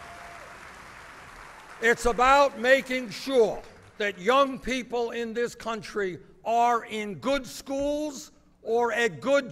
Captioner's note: applause